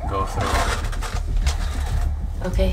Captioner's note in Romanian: zgomot de rover